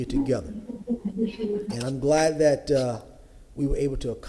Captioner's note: ~audio distortion~